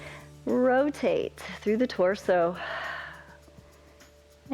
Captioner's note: exhales